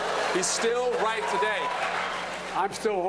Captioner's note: cheering and applause